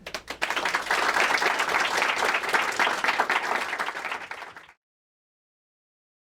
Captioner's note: applause